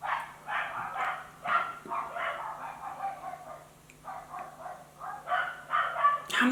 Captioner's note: dogs barking outside